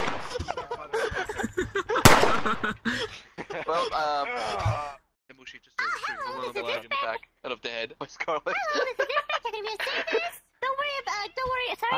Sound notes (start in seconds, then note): 0.2 laughing; 2.0 final gunshot; 2.2 laughing; 4.3 groan; 4.3 laughing; 8.5 laughing; 8.5 laughs